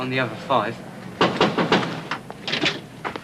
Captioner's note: knocking at the door